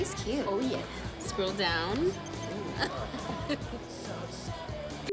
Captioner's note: laughs